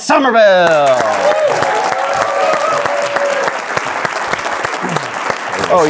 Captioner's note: audience applauding; audience cheering